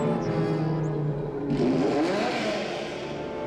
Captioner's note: engine revving